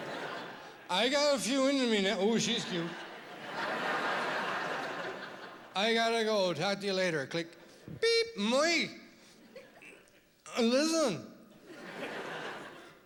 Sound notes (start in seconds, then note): 8.3 click